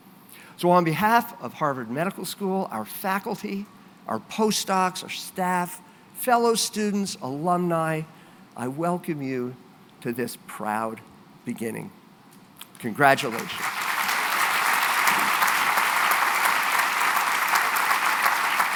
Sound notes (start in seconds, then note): 13.0 applause